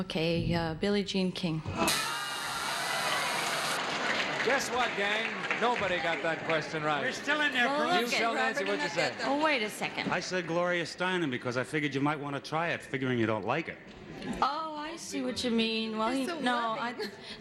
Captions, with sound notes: Okay, Billie Jean King. [buzzer sounds] -Guess what, gang? Nobody got that question right. -We're still in there. -Hugh, tell Nancy what you said. -Well, wait a second... -I said Gloria Steinem, because I figured you might wanna try it, figuring you don't like it. -Oh, I see what you mean. No...